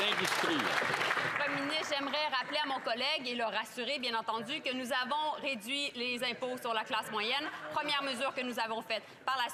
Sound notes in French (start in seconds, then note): 2.6 applaudissements